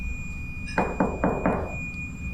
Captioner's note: self-banging sound